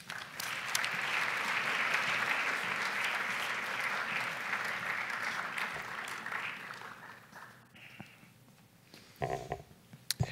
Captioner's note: applause